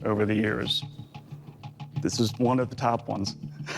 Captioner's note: laughs